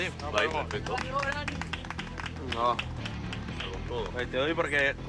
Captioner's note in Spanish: aplausos